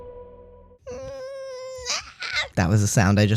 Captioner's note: another inexplicable squeaky cry